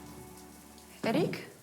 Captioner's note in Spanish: ruido de la ducha